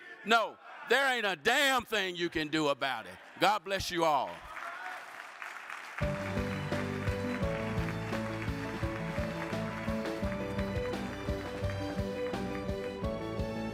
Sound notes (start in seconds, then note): 4.4 audience applauds; 6.0 cheerful upbeat music